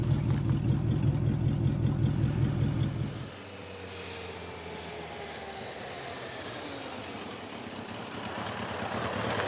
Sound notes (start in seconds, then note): 4.0 motorcycle humming